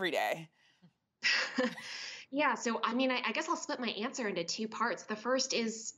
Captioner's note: laughs